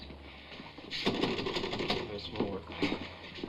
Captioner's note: typewriter chattering